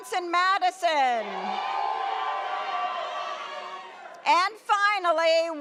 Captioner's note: audience cheers